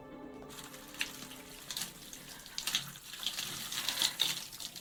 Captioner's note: water splashing